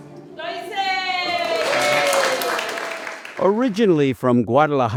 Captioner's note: applause